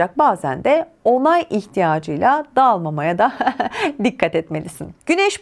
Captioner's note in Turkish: kahkaha